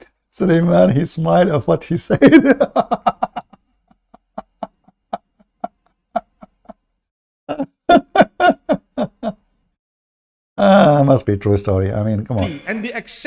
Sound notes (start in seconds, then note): 7.5 Ketawa